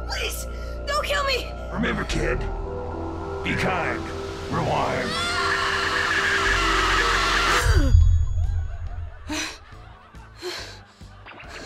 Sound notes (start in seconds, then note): 5.0 Mikey screams; 7.6 Mikey gasps; 10.3 breathing heavily